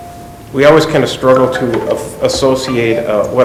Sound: phone chirps

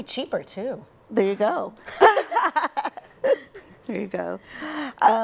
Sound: laughs

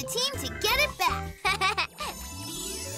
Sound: giggles

